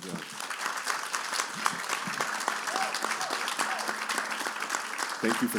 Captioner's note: cheers and applause